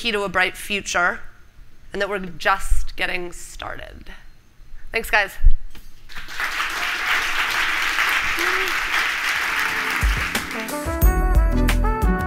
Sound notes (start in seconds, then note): 6.1 applause; 9.6 soft jazz music